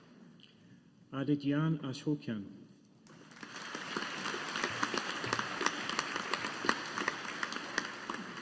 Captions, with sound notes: Adityan Ashokan. (AUDIENCE APPLAUDING)